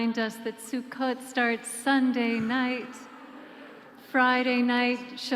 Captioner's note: soft laughter